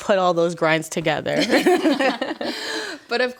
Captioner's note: all laughs